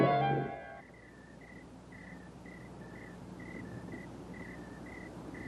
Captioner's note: crickets chirping